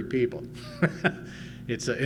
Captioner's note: laughs